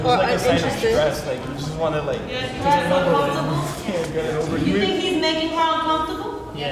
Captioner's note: crowd talks over each other